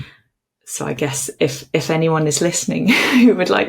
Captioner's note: chuckles